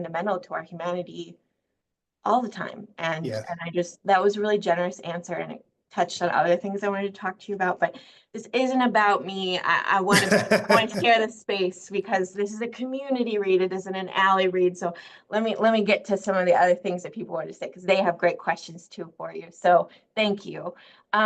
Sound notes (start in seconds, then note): 13.4 laughing